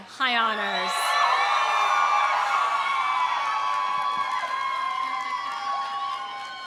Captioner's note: audience cheering; audience applauding